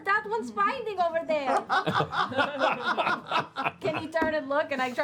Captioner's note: laughter